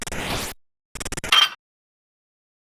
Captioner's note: clank